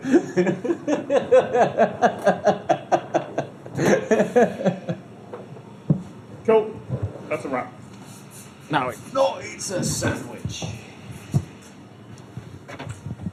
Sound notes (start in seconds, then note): 0.0 laughter; 9.0 bad Cockney accent